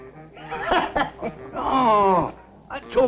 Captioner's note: man laughing